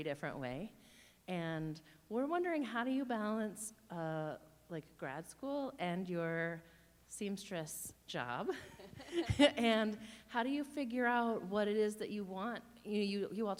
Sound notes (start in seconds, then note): 8.4 laughing; 8.6 chuckles